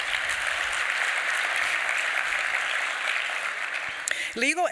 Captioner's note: applause